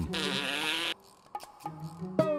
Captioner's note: blows raspberry